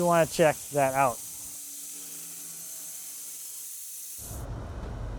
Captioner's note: saw whizzing